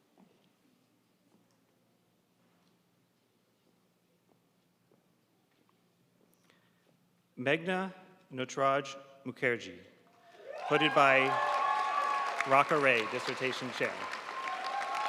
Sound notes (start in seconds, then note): 10.3 audience cheering and applauding